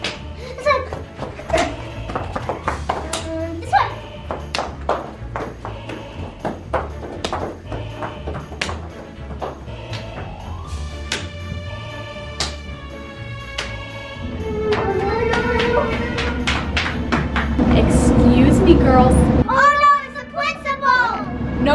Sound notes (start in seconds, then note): 1.2 ruler slapping; 3.5 whimpers